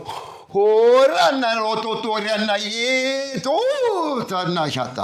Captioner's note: non-english speech